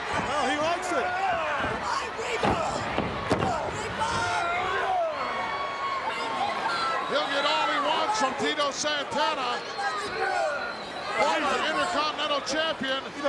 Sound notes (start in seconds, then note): 1.2 feet stomping; 5.3 crowd yelling